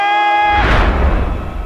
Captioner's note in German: Donnerschlag